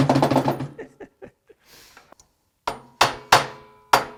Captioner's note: chuckling; hammering